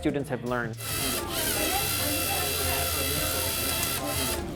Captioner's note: robot whirs